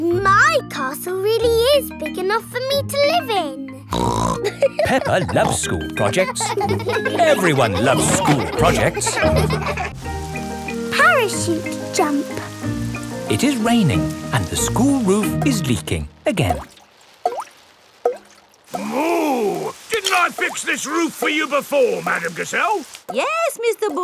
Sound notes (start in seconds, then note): 4.0 snorts and laughs; 6.8 children laughing; 17.7 water dripping